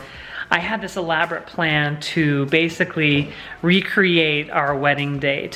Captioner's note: none